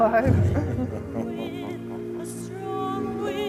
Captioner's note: laughing